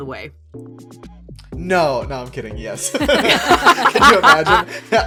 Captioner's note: laughs